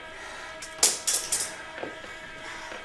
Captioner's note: metal drops